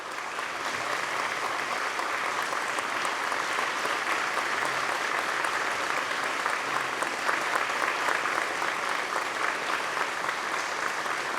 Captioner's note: applause